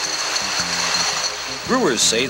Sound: bottles rattle

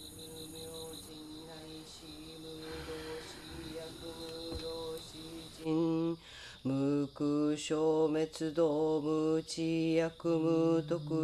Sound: chanting

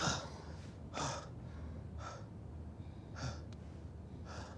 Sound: heavy breathing

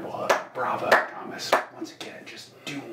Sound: slow clapping

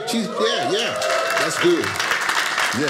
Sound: audience applauding

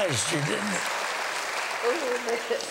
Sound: laughter

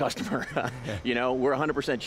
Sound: laughing

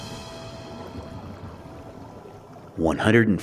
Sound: water bubbling

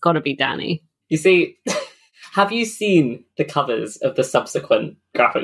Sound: laughs

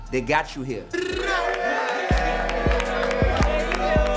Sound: crowd cheers

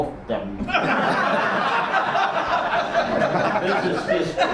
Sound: audience laughs

